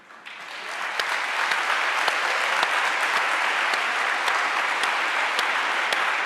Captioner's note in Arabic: الجمهور يصفق